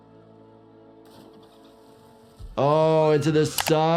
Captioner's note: dramatic music; dolphins splash and click